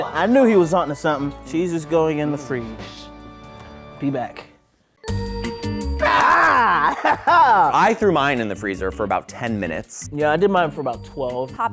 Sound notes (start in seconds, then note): 5.0 elevator music; 6.7 laughter